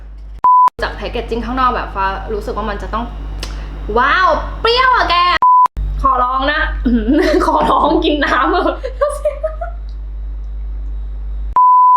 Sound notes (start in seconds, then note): 6.5 phlegm